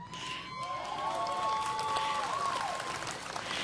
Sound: cheering

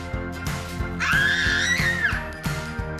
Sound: screams

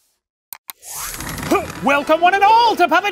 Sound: clicking

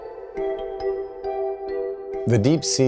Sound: voiceover

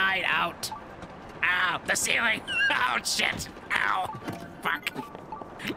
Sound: Green Goblin Voice

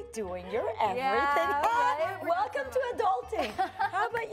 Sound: laughs

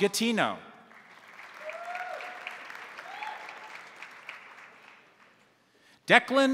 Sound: crowd applauding; crowd cheering

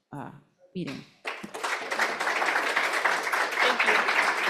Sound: applause

